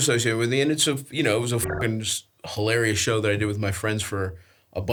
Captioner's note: beeps